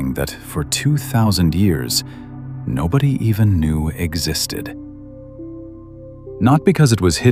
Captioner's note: breath